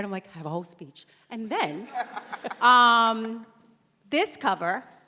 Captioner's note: panelists laugh